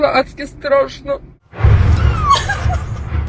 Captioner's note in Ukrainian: вибух